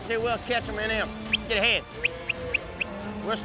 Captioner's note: whistles